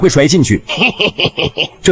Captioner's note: sinister chuckling